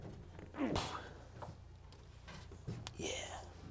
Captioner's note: strains